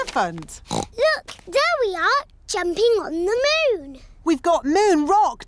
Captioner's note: oinks